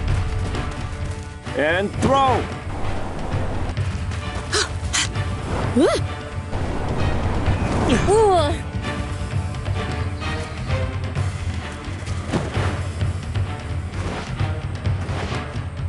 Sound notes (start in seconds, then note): 4.5 groaning; 7.5 groaning